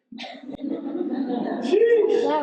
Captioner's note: audience chuckles